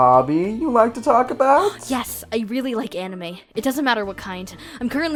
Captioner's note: gasp